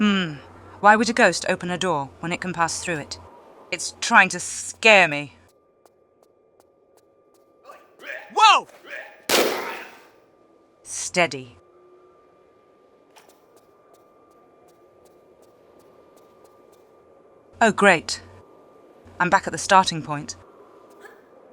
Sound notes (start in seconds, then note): 9.3 bam